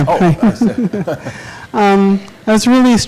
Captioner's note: laughing